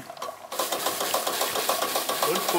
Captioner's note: rapid rattling; quiet conversations